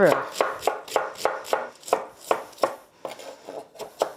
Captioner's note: knife thumping